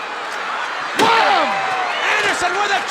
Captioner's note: steel chair thudding